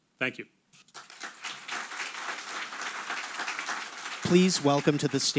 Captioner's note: audience applauding